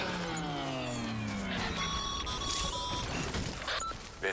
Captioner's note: radio call